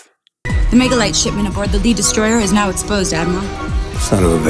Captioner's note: movie dialogue plays